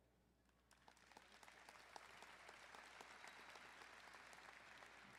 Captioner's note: crowd applauding